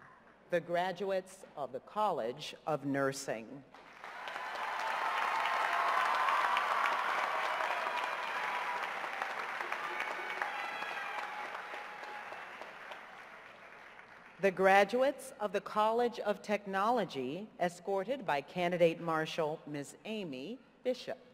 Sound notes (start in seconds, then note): 3.8 cheers and applause